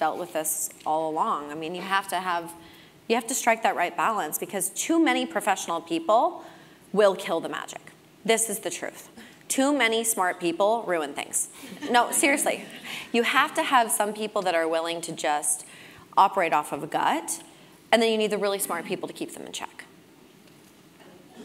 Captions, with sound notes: dealt with this all along. I mean, you have to strike that right balance, because too many professional people will kill the magic, this is the truth, too many smart people ruin things. >> [LAUGH] >> No, seriously, you have to have some people that are willing to just Operate off of a gut, and then you need the really smart people to keep them in check.